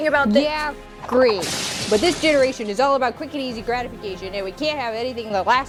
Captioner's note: crash in Background